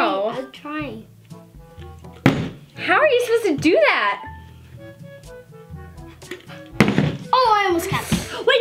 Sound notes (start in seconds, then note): 2.1 bottle landing; 6.7 bottles landing